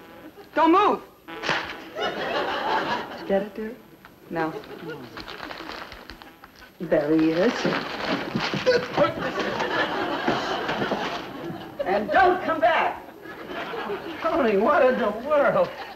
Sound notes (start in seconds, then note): 0.0 audience laughs; 1.4 book slaps against surface; 5.5 scuffling and knocking about